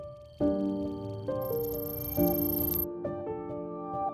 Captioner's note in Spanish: Sonido de clics de teclado